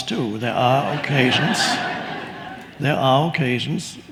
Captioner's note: audience laughs